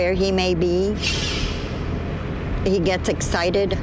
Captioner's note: electric whirring